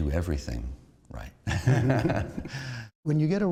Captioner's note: laughter